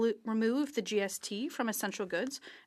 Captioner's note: speaking French